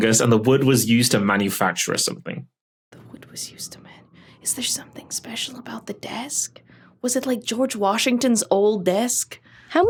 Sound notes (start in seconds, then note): 3.0 whispering